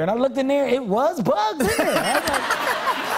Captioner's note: laughter